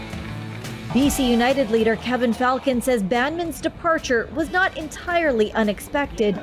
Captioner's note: CBC reporter voice